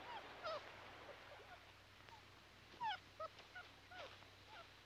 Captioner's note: puppies whimpering